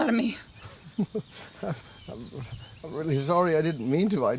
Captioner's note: chuckling